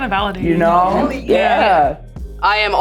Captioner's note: pat